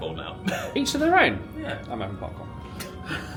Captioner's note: laughs